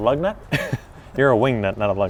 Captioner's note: laughs